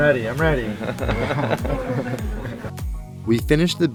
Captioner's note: group laughs